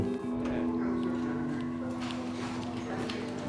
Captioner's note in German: Musik verklingt; Entfernte Stimmen